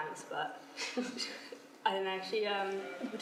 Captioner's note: laughs